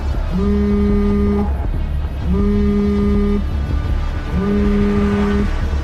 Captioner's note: phone buzzing